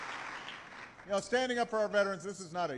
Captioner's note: applause